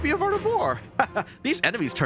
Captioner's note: laughs in easily manipulated delight